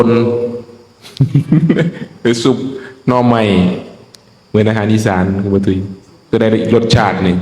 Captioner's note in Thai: เสียงหัวเราะ